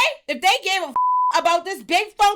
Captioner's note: beep